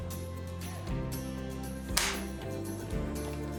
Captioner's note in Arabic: تنقر البندقية فارغة